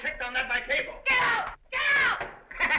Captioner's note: laughs